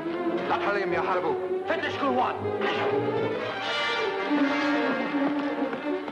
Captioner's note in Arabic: يتحدث باللغة الأجنبية